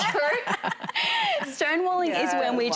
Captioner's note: hosts laughing